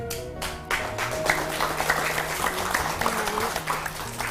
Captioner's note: applause